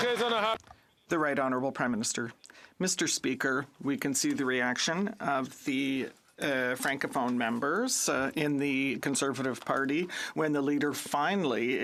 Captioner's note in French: applaudissements